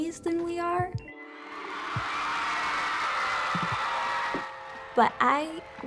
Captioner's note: applause